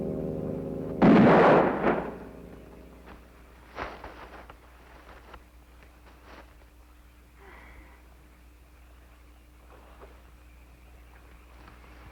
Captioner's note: gunshot